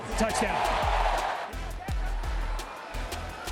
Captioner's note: cheering